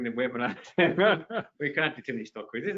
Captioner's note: laughs